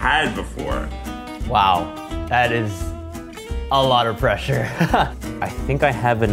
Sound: chuckles

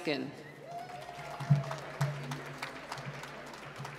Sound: applause

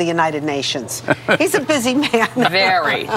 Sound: laughs

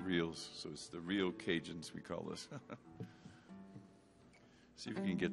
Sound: chuckles

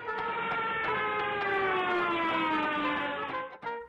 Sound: engine roaring

